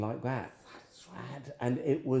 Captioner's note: whispering